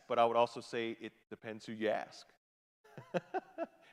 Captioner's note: laughs